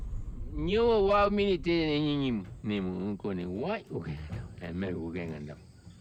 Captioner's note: speaking in foreign language